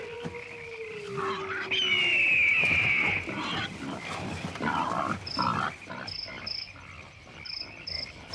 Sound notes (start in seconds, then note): 1.1 baying and screeching continue; 2.5 oinking; 5.3 chirruping